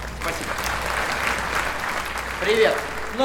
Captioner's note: applause